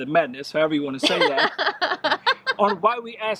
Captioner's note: laughs